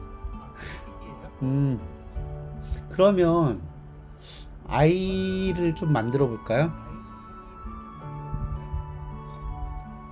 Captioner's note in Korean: 콧방귀